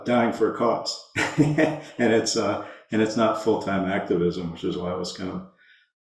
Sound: laughs

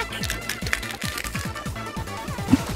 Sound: cracking sound

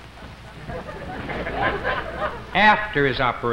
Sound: crowd laughs

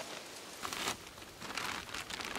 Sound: bag sounds

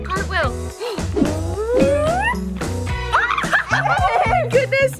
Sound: laughs

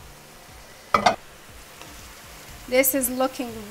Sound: pot clangs

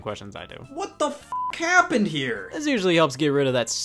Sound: beep

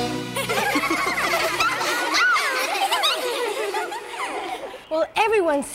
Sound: laughing

